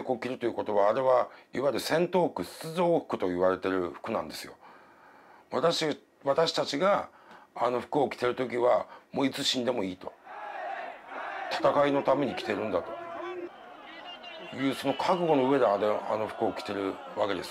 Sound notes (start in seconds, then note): 11.0 people shouting in foreign language; 12.7 speaking in foreign language